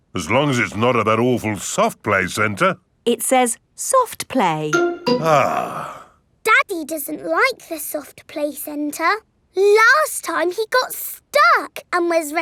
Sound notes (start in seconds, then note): 5.4 sighs